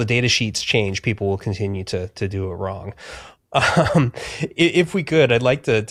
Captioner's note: chuckles